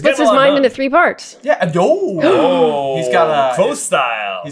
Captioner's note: gasps